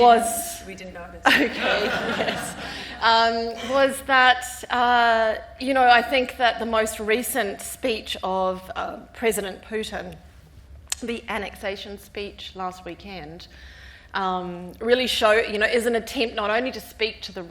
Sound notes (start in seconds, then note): 1.2 all laughing